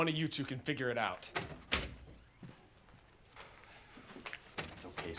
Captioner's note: door clicks open